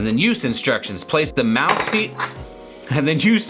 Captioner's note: rattle